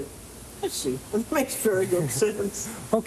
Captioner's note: laughs